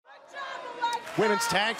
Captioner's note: fans chanting